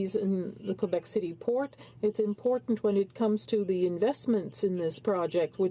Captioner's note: speaking french